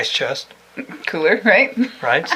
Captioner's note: she laughs